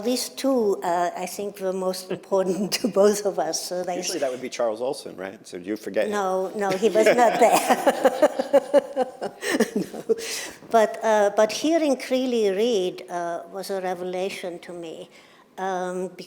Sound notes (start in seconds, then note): 6.6 laughter